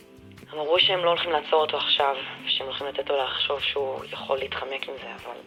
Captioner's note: speaking in Hebrew